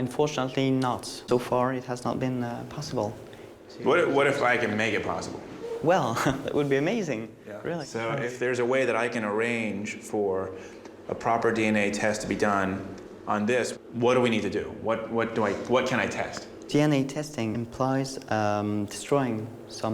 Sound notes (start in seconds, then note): 5.8 giggles